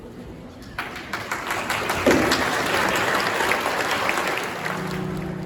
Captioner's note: applause